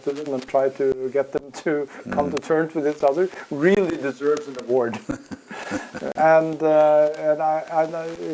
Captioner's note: laugh